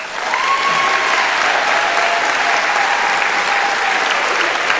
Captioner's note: applause; cheering